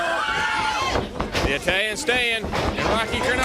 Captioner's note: crowd cheering